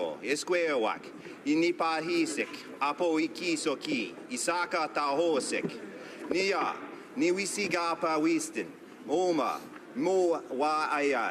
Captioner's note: speaking native language